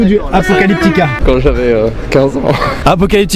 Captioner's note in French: rire